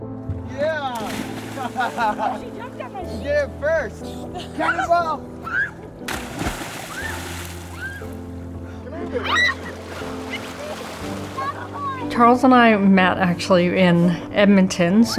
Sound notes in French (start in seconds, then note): 1.5 rires; 6.0 éclaboussures; 7.2 les enfants crient de joie